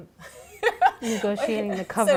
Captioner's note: laughing